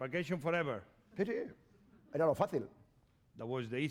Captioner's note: speaking spanish